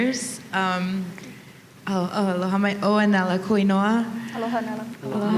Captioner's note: speaks Hawaiian